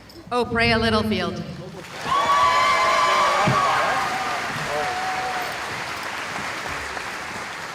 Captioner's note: cheering